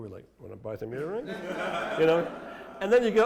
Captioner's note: laughter